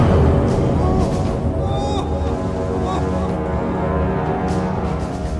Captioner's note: he screams